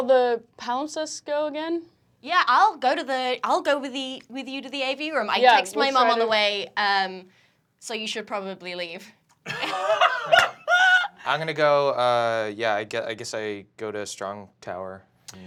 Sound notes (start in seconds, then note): 9.4 laughing